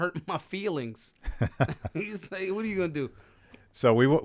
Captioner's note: laughing